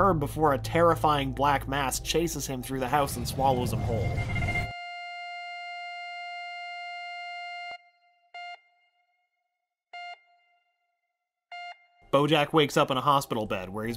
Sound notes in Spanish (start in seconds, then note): 3.8 pitido largo; 8.4 pitido rítmico